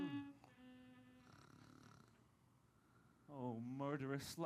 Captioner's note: snores